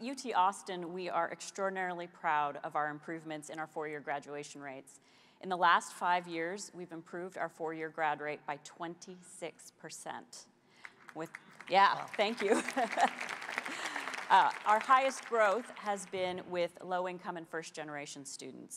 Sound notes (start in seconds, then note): 10.8 applause